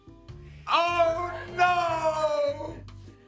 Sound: laughs

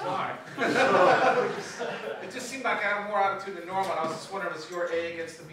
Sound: laughter

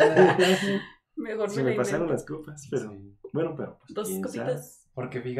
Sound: laughing & agreeing

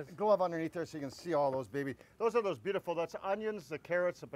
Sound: none

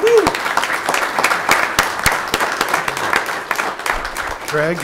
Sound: audience applauding

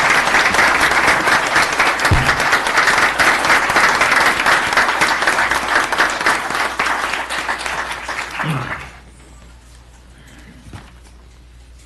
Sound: applause

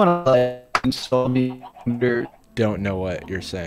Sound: choppy speech

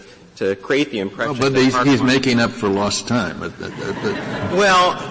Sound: laughter

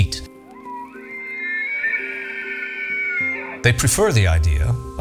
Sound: elk bugle

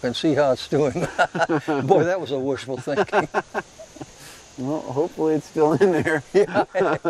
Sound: laughs

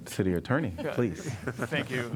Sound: laughter

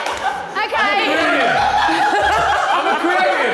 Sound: all laughing

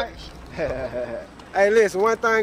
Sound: laugh

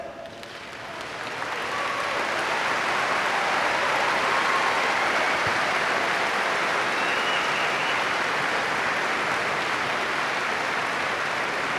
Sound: applause

